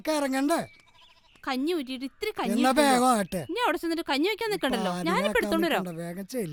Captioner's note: murmering